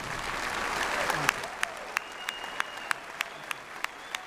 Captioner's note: applause